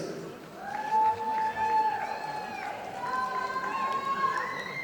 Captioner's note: audience applauding